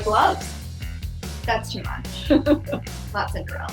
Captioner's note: laughs